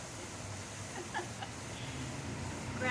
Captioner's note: laughing